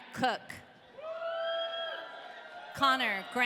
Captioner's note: audience cheering